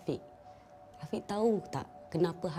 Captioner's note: in Bahasa Melayu